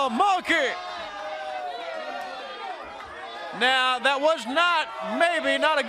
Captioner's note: crowd chatter